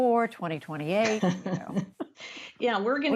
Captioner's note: laughter